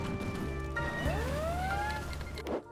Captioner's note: nightmare sounds